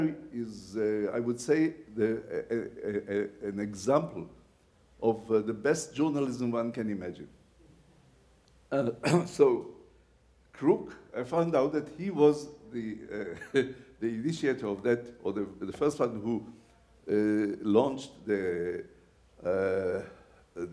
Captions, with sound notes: his diary is, I would say, an example of the best journalism one can imagine. So, Kruk, I found out that he was (laughs) the initiator of that, or the first one who launched